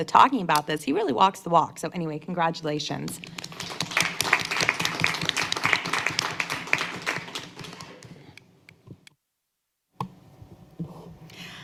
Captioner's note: applause